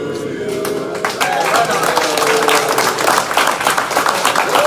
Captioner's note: applause